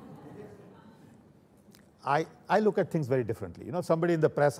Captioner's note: laughter